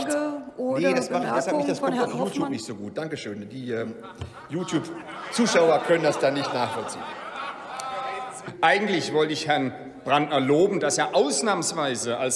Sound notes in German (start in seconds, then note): 3.7 Lachen bei der CDU/CSU